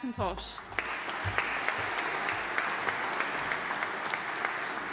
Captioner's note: audience applauding